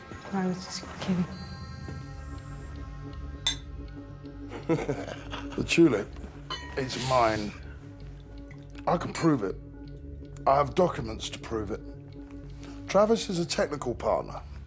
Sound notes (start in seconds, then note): 3.4 glasses clink; 4.4 both laughing